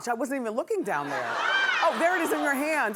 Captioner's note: laughing